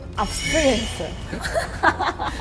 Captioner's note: sighs hard